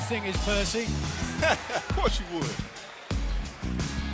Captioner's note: laughter